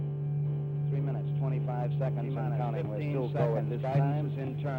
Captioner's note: voiceover